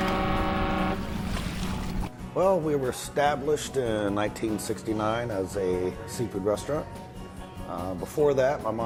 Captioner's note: fog horn